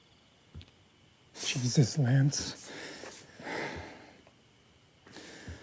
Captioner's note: sighs